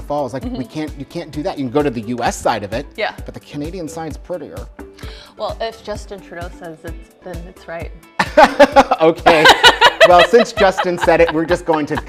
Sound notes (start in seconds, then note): 9.2 both laugh